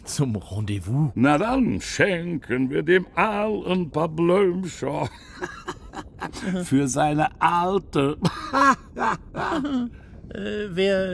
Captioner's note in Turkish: gülüyor